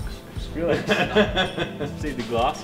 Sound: laughs

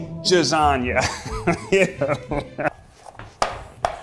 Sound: laughing

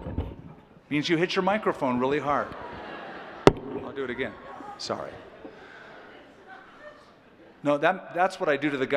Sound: laughter; laughter

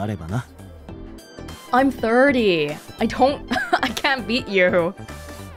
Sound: chuckles

